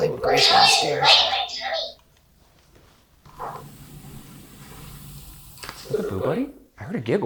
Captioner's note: Boo Buddy indistinctly chattering